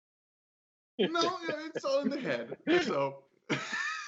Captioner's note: laughter